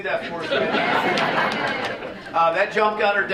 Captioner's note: audience laughing